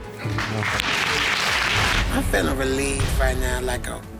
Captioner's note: audience applauding